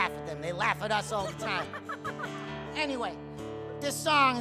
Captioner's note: guitar strumming; laughing